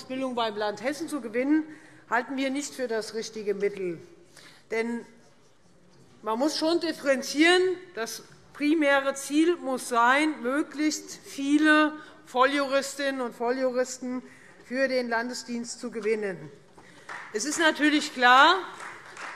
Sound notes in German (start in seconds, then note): 16.8 Beifall Freie Demokraten